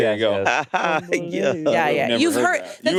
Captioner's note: laughs